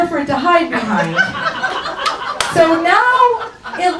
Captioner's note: audience laughs